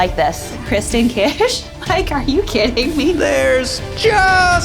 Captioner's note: laughs